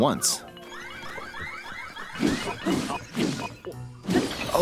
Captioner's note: Construct warning sounds; music picks up